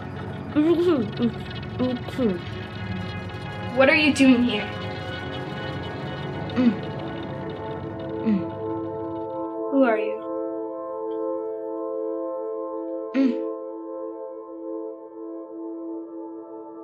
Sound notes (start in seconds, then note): 5.1 moaning; 6.2 emotional music; 13.0 moans